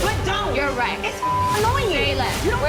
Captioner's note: beep